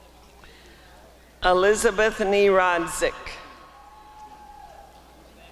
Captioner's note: applause and cheering